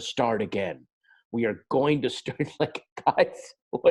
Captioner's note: laughs